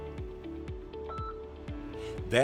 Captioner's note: beep